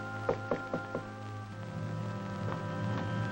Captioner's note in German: klopfen